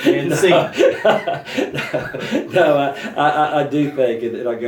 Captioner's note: laughter